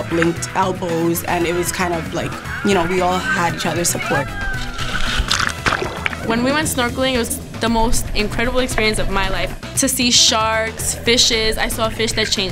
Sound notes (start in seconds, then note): 4.0 underwater sound effects; 4.6 water splash